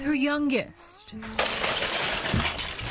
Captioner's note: toys clattering